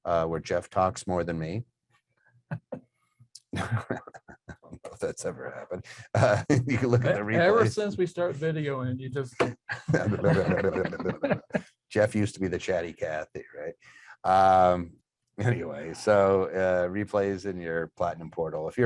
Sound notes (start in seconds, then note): 3.5 both laughing; 9.5 laughing